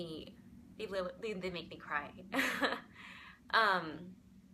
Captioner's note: chuckles